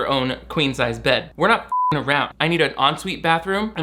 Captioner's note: beep